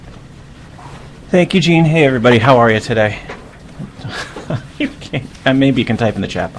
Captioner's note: laughs